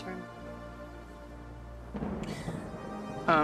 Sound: thunder in distance

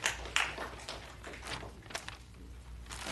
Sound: applause

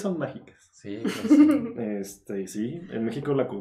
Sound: laughing & agreeing

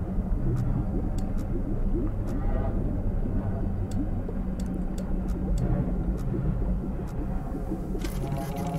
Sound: machine whirring

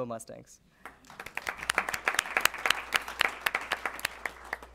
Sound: applause

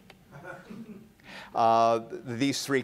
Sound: laughter

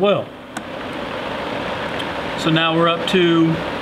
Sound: blower motor whirring

